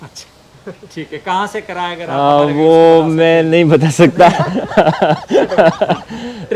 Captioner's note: laughs